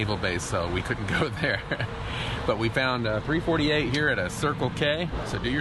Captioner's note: laughing